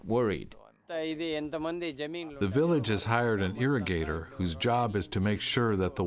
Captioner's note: through translator